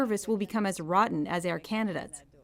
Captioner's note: speaking French